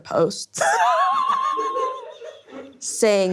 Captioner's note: laughing